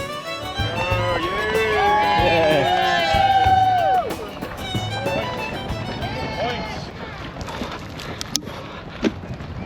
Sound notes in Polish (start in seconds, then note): 1.5 Aplauz